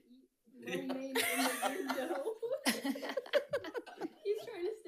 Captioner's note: people laughing